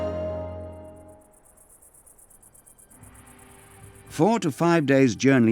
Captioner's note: insects chirping